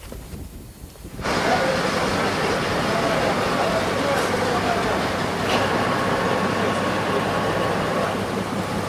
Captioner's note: machinery rattling